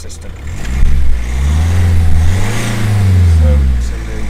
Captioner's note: engine noises